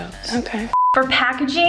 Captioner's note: beep